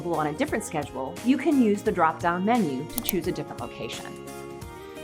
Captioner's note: mouse Click